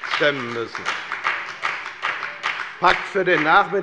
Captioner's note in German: Beifall bei der FDP